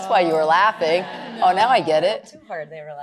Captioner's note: laughter